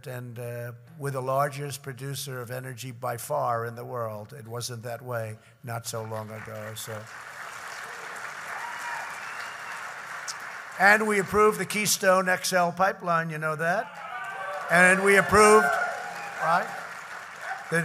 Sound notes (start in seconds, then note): 6.0 applause; 13.8 applause